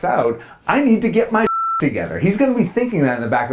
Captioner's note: beep